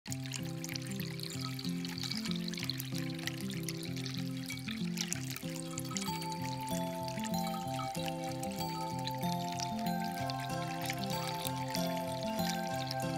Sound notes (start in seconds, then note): 0.0 water flowing, music playing